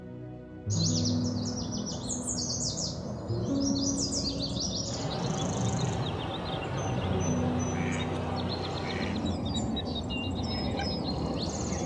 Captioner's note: birds chirping